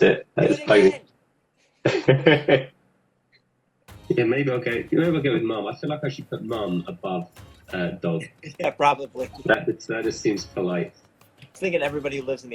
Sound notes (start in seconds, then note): 0.0 laughs; 1.8 laughing; 9.0 chuckles